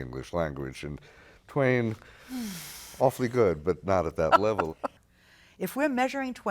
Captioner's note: laughter